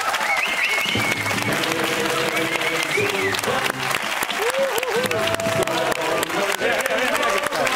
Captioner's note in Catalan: aplaudiments